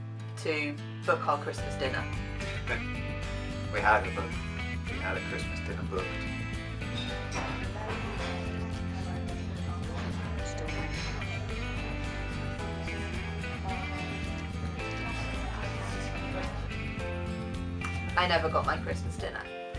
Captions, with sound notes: to book our Christmas dinner [laughs] we had a Christmas dinner booked [cafe noises] I never got my Christmas dinner